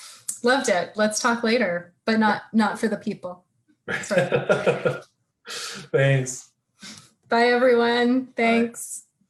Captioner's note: laughing